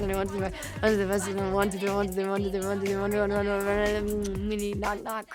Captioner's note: kisses